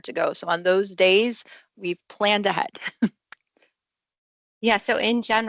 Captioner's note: laughs